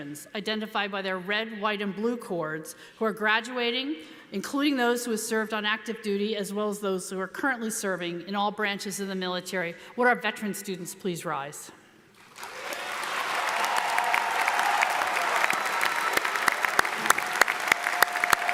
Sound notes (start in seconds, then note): 12.2 audience applauds; 12.4 audience cheers